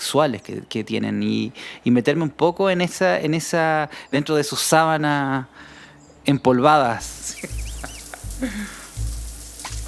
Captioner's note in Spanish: Risas